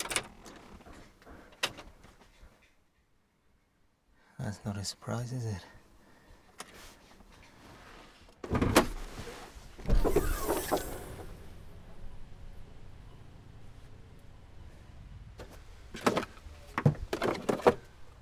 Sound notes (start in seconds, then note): 8.5 clicks handle; 10.0 sound of bonnet opening